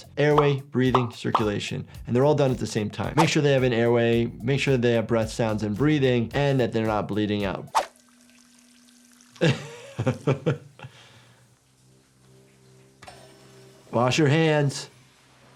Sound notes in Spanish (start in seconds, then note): 9.4 el doctor se ríe